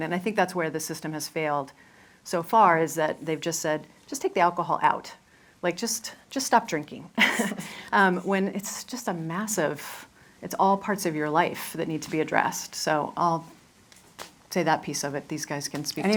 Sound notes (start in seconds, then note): 7.2 laughs